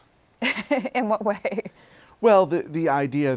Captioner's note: laughs